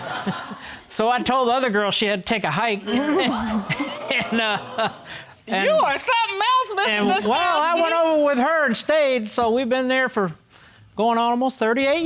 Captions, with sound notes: So, I told the other girl, she had to take a hike. (LAUGHING) And... (CHUCKLES) You are something else, Mr. Daskoski. I went over with her and stayed so, we've been there for going on almost 38 years.